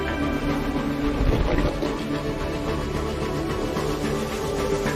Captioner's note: liquid shifts